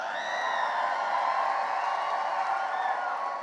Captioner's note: cheering and applause